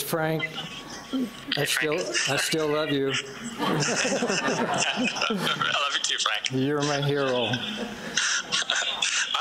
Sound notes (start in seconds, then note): 3.1 audience laughs